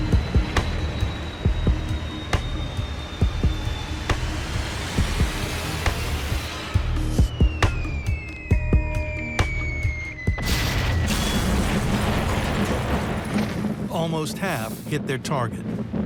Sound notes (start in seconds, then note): 6.4 bombs whistling; 10.3 explosions